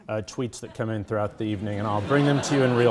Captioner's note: audience laughing